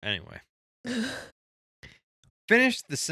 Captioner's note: laughing